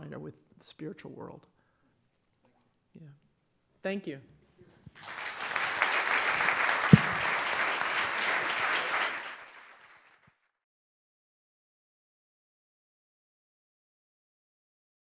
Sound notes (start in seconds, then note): 4.9 audience applauding